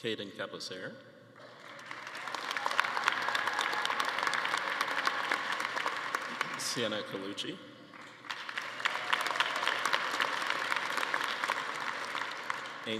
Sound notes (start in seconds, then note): 1.4 attendees applauding and cheering